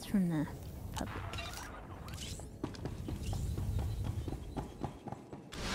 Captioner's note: beeping